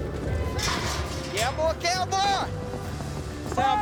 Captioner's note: gate clanks